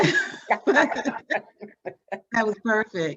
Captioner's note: both laughing